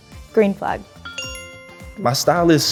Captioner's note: bell chimes